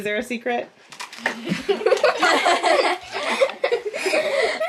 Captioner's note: kids laughing